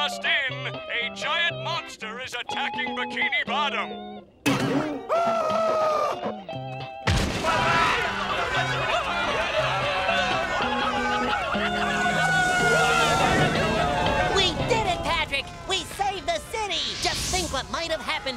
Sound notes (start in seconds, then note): 5.0 screaming; 11.8 sirens blaring